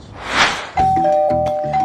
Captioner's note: ding-dong